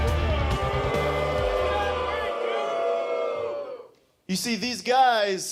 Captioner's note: audience boos